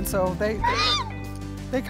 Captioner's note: horse neighing